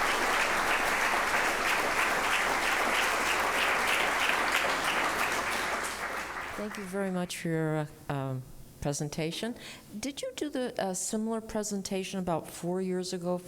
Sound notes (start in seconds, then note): 0.0 applause